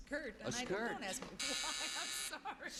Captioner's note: buzzer